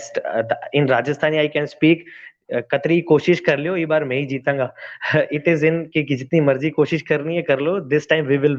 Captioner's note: Speaks in Rajasthani